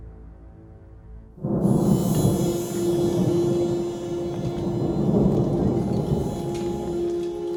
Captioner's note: soft suspenseful music; thunder rumbling